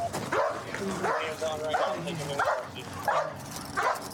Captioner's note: dog barking